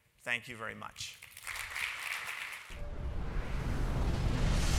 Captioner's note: audience applauds